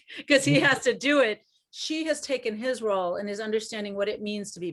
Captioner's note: laughs